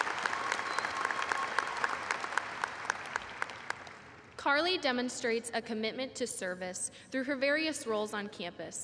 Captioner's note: applause